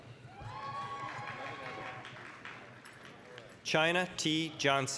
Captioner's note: applause, cheering